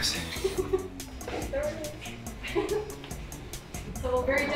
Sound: student laughs

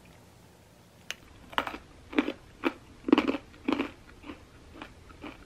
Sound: crispy sound

